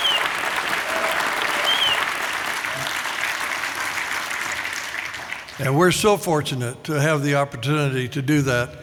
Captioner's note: applause